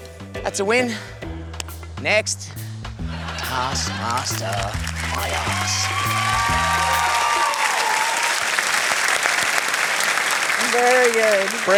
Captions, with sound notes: That's a win. Next. Taskmaster my arse. (CHEERING, APPLAUSE) Very good.